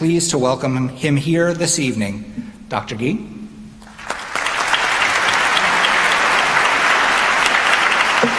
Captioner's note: applause